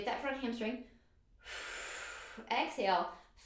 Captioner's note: exhales breath